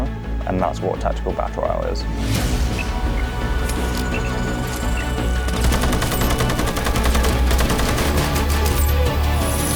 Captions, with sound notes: and that's what tactical battle royale is. (intense music) (gunshots)